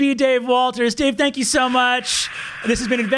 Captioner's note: hissing